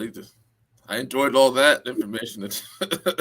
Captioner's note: laughter